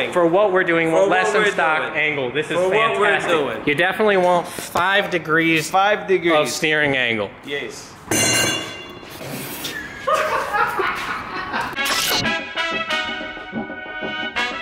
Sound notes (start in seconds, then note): 8.1 metal clunking; 9.6 laughting; 11.7 upbeat music